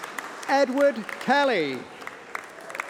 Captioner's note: applause